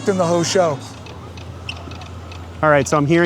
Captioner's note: morse code clicking